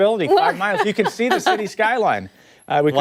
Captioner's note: laughter